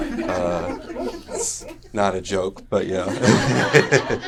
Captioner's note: more laughter; laughter